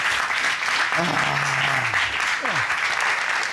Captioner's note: Judge Keith sighs